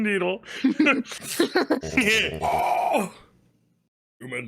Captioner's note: laughs; groans